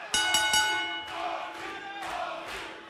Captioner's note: bell ringing; crowd cheering